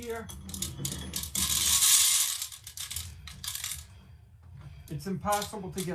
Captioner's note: grains rattling on tin